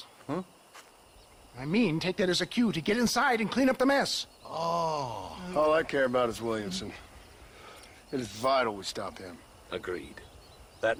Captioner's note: huh?